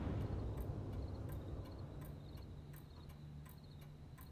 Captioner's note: clock ticking